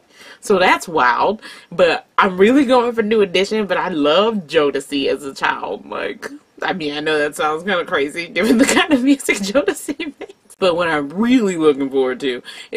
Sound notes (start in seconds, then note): 9.4 laughing